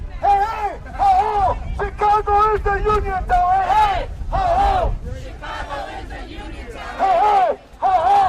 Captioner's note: chanting